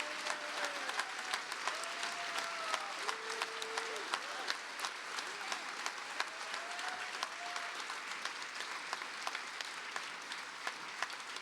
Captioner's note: cheers and applause